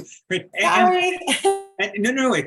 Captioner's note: laughs